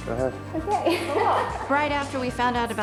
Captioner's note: laughs